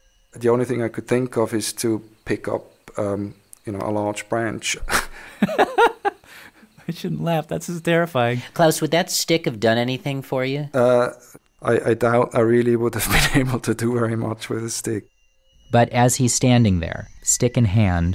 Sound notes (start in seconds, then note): 4.8 laughs